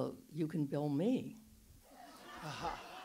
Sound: audience laughs

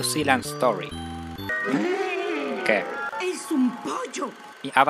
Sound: sound of surprised people

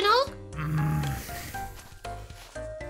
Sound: groaning

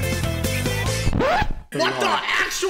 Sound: record scratch

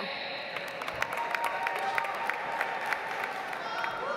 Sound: audience applauds

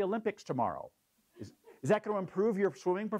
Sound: laugh

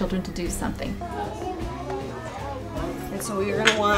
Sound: classroom noise

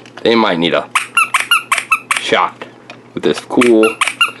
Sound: squeaks 3 times; squeaks

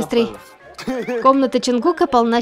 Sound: room is full of happy laughter

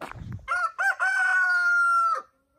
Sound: rooster crows

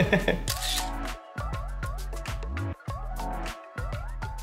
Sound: giggles; camera clicks

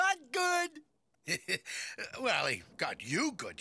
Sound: laughing

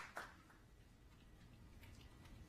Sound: applause

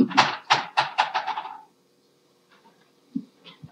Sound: clanking

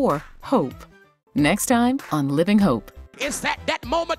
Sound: voiceover

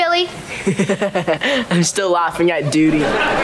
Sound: laughing

